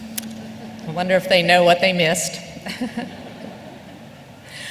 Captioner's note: laughter